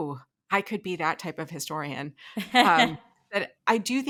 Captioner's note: laughing